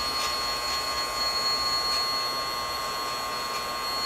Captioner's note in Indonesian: lonceng